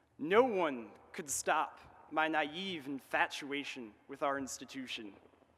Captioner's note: none